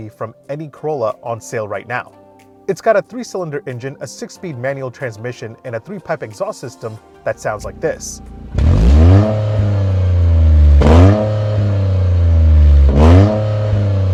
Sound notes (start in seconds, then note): 7.4 engine revving